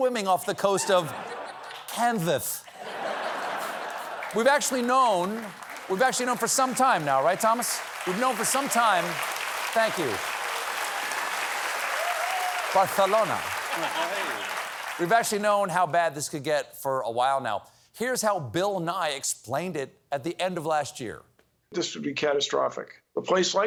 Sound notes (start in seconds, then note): 2.6 laughter; 9.0 applause